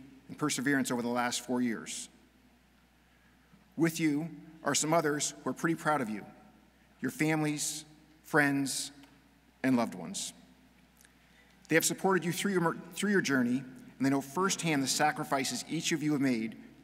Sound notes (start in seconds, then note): none